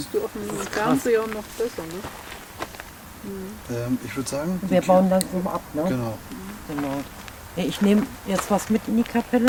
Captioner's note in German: knurrt leise